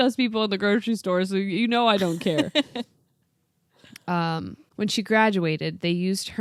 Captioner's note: laughs